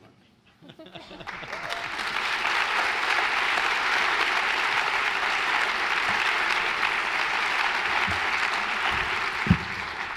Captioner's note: applause